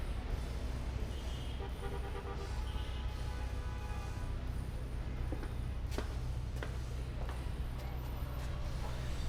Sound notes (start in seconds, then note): 1.6 horn honking; 5.6 footsteps pattering